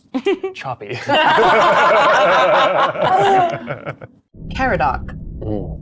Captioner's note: everyone laughs